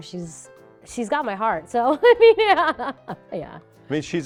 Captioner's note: laughs